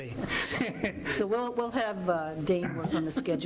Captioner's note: chuckling